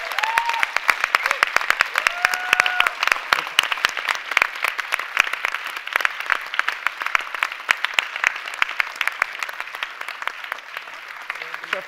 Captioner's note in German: Applaus